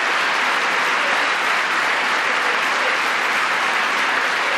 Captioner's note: applause